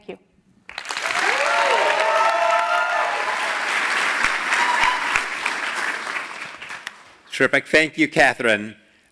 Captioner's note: applause